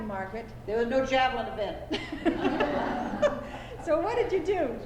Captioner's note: laughter